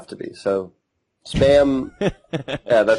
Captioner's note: laughs